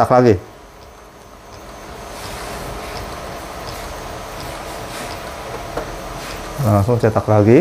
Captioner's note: printer machine noise